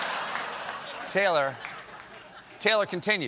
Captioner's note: laughter